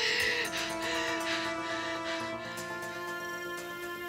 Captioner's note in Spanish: sollozos